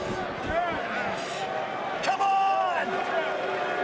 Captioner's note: crowd chatter